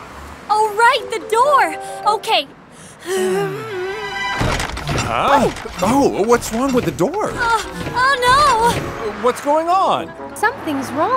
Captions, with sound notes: Oh, right! The door! Okay. [grunting] - Huh? - Oh! What's wrong with the door? Aah! Oh, no! - What's going on? - Something's wrong.